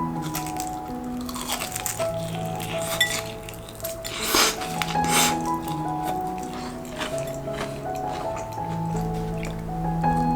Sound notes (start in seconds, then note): 0.3 crunch crunch; 3.6 slurp slurp